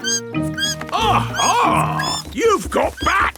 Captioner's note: bat squeaking